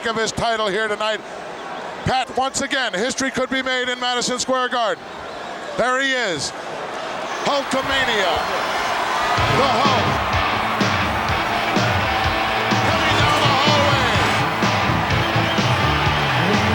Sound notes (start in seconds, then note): 8.2 audience cheering; 9.4 upbeat rock music